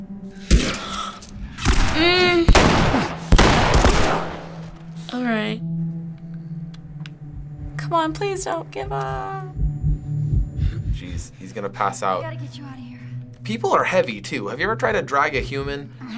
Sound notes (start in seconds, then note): 0.4 sharp gasp; 2.5 gunfire exchange; 6.0 somber music; 8.8 Joel's heart thumps